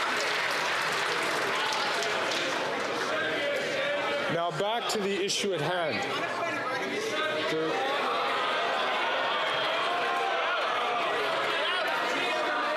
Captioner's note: some Applause